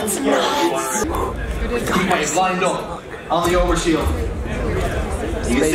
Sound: gasps

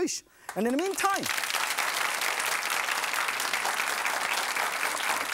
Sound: audience applauds

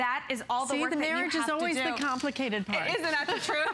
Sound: laughter

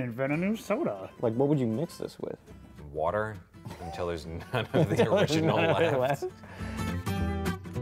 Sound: laughter

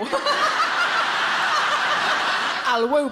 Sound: audience laughing; laughs

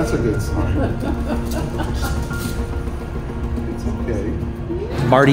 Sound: caretakers laughing

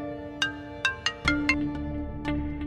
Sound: phone ringing

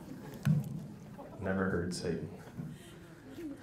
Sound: laughs

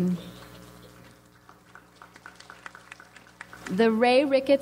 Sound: audience applauds

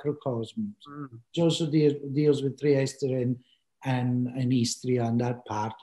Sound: speaking in foreign language

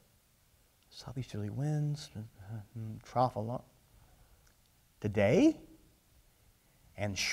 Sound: mumbling of weather terms being checked off

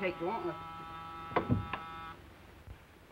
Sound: door buzzing

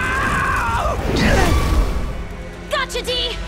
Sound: screaming; grunting

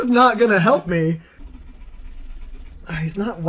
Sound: frantic scribbling

